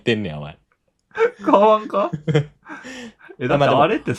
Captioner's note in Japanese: 笑い